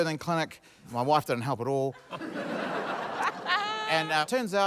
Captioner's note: laughter